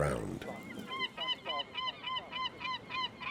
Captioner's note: gulls calling